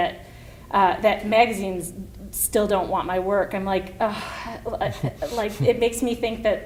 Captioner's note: sighs